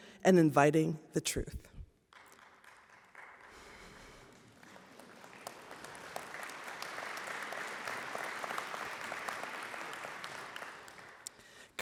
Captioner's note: applause